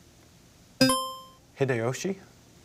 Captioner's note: buzzer chimes